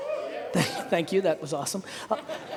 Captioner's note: laughing; audience laughing